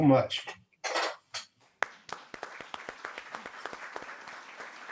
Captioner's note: audience applauds